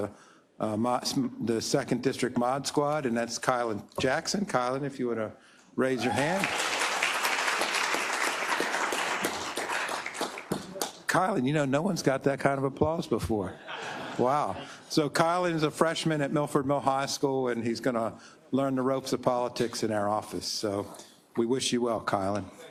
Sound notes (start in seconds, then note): 6.0 applause; 13.6 laugh